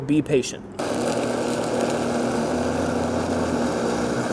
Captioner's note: blender whirring